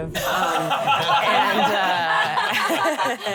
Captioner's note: laughing